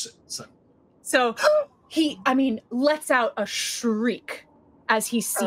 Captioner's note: gasps